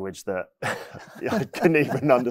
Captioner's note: laughing